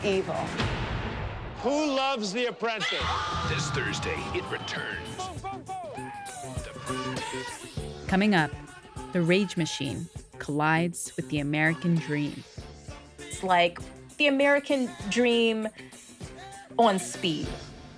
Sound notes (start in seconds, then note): 1.6 cheering; 6.9 singing